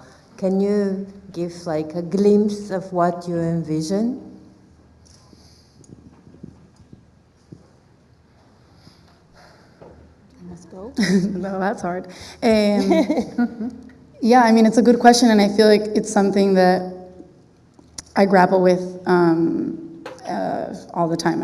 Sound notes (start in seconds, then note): 12.7 laughs